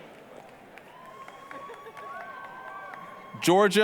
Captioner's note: applause, cheering